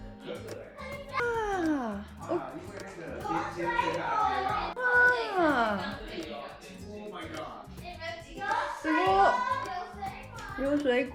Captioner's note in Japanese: 感嘆の声